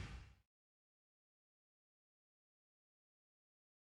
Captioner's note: whooshing